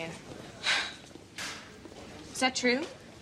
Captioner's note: scoffs